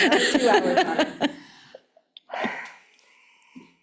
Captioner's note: laughing